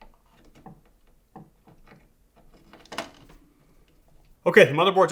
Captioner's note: screwdriver clinking